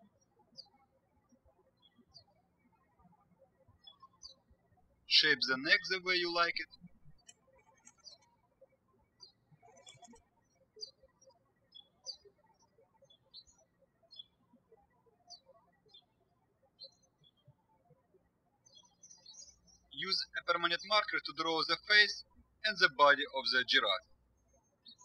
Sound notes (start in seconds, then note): 0.2 birds chirping; 7.5 birds chirping